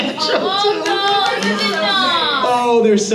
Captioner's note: crowd